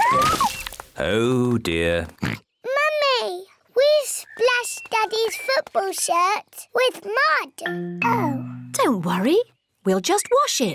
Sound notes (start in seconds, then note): 2.2 oinks